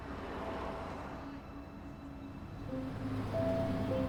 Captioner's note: traffic whooshing